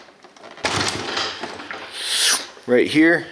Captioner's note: clanging